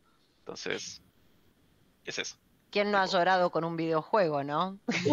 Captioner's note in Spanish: risas